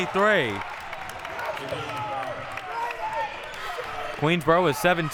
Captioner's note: audience applauding and cheering